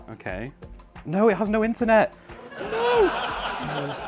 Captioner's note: laughter